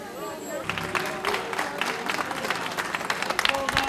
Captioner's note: applause